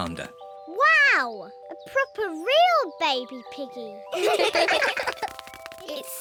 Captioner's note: all laugh